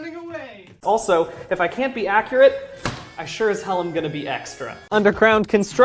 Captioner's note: heavy chop